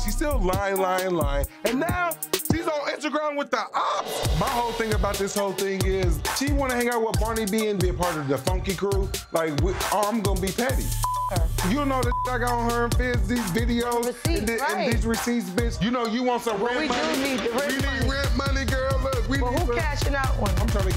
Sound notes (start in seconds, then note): 11.0 beep